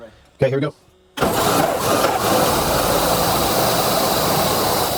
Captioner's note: engine shutters